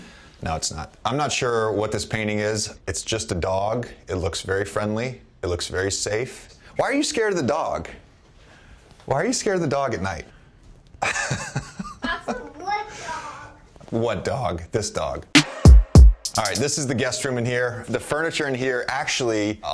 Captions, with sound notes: No, it's not. I'm not sure what this painting is. It's just a dog. It looks very friendly. It looks very safe. Why are you scared of the dog? Why are you scared of the dog at night? [laughs] - What dog? - What dog? This dog. [upbeat music] This is the guest room in here. The furniture in here, actually,